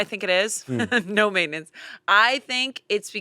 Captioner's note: laughs